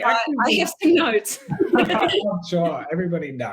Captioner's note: laughing